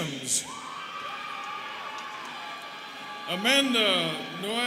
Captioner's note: students cheering